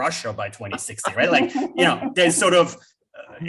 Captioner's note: laughs